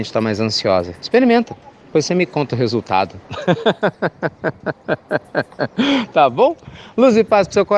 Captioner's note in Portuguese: Risos